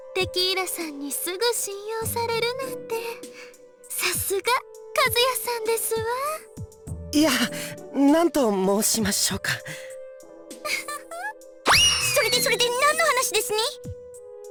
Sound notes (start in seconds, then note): 10.6 giggle